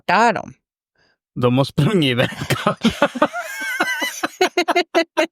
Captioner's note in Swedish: skratt